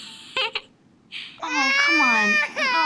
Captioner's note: crying